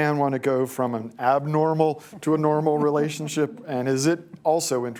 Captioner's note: laughter